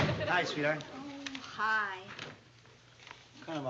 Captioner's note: frustrated